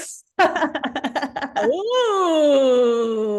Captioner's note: laughs